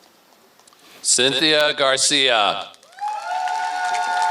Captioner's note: applause